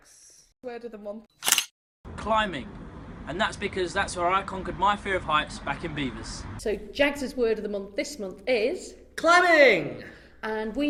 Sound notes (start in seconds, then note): 1.4 camera click